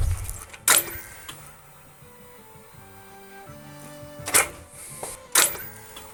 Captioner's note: clicking